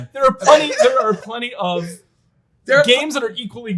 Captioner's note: laughs